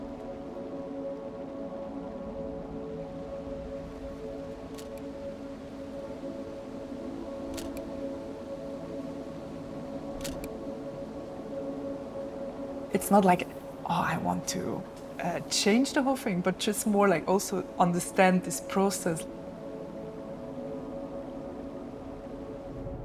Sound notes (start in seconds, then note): 10.2 camera shutter clicks; 13.1 click